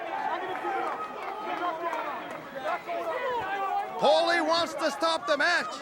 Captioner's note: crowd cheering